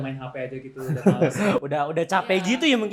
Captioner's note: laughter